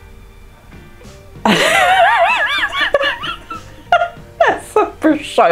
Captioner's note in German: lacht